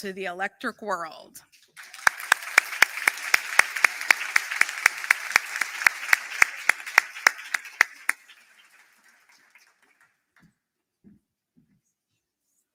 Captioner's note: applause